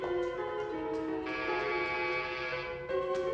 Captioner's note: Bel pintu berdengung